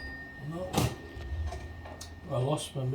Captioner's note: clanging bell; clack